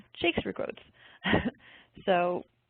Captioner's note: giggles